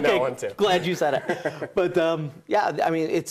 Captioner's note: laughs